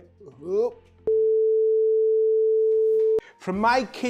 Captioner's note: beep sound